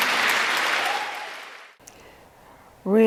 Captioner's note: applause